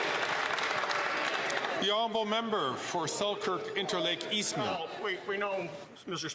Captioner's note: some Applause